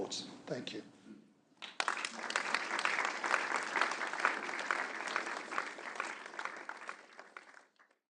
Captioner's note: applause